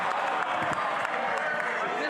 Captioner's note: some Applause